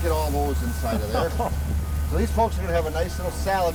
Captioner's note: laughs